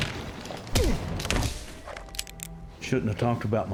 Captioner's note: thudding, guns clicking